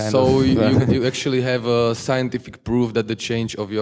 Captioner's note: voiceover